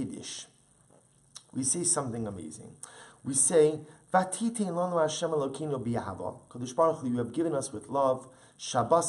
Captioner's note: Hebrew